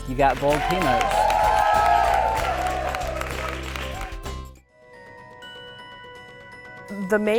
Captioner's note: cheers and applause